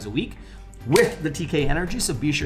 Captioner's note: fingers snapping